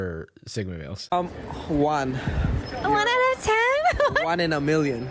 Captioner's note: giggles